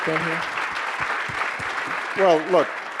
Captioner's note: audience applauding